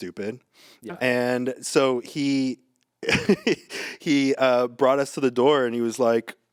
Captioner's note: laughs